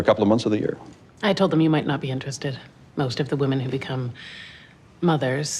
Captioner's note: none